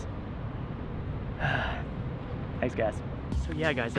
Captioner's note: sighs